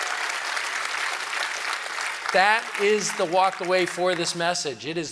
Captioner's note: cheering